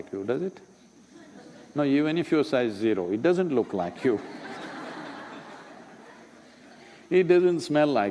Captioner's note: laughter